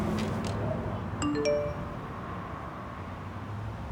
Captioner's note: notification sound